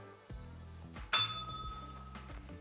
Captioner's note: bell rings